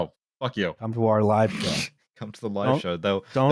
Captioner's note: laughs